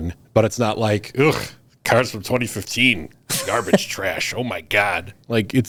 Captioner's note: scoffs